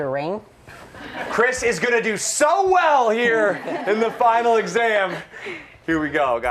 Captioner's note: laughter